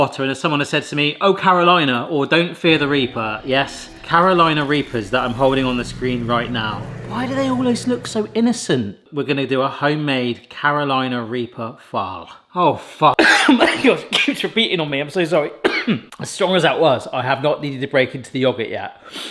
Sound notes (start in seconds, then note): 13.2 coughing; 15.6 coughs